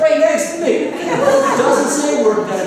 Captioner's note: laughter